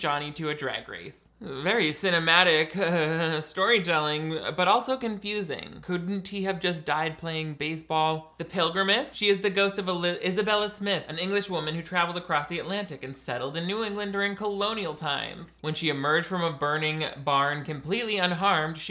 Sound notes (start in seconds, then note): none